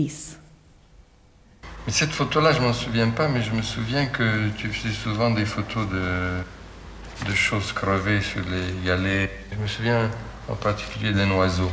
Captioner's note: speaking french